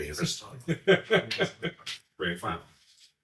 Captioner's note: laughs